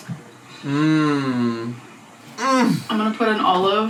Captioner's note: groaning